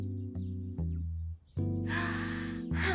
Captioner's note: sighs